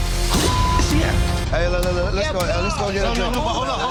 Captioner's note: beep